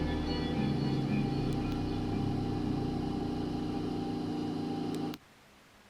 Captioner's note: ventilator humming; static tone